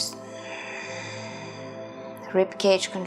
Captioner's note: exhales deeply